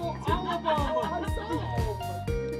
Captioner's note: friend yelling teasingly